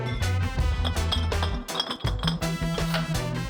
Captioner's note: bottles clink